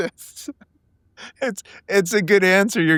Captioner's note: laughing